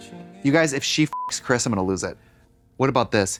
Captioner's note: sad piano music; beep